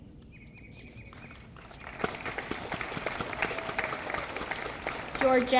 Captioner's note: audience applauding